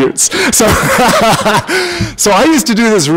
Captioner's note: laughter